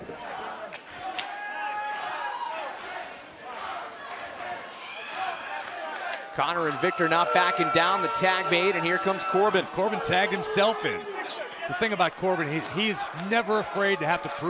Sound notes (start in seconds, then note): 1.9 fans chanting